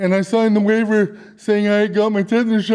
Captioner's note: none